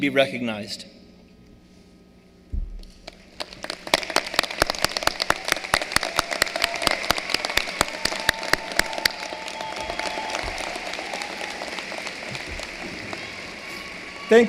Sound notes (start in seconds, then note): 8.5 cheering and applause